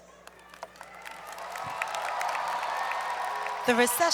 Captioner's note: applause